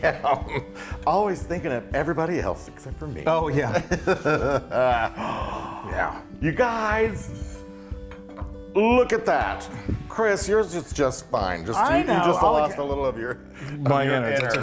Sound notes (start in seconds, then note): 3.6 laugh